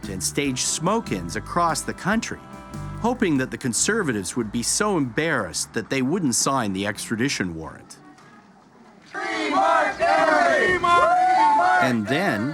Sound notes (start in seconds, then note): 9.0 chanting